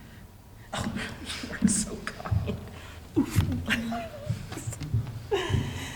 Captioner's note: laughs